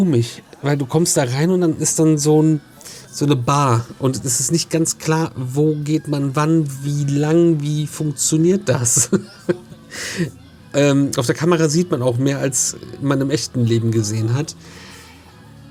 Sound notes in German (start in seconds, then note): 8.7 gelächter